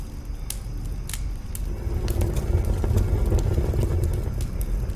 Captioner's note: fire roaring